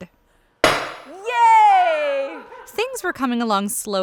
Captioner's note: hammer banging